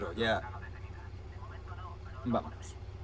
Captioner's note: police radio